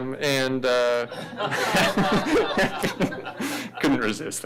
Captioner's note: audience laughing; laughs